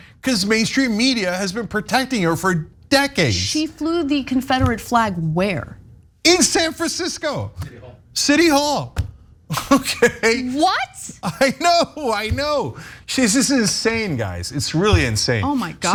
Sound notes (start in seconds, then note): 9.5 laugh